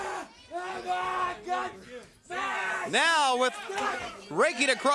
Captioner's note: crowd chatter